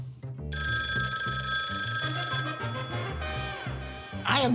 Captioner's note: telephone ringing